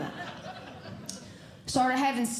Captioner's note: audience Laughing